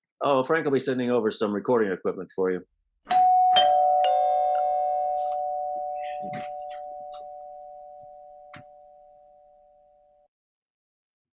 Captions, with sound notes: Oh, Frank'll be sending over some recording equipment for you. (Two doorbells ring)